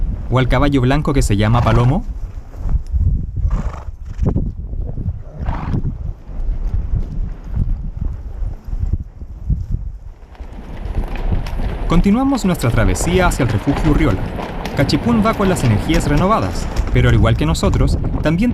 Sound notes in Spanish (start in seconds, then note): 4.4 Sonido de Caballos pastando